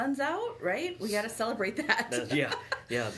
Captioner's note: laughs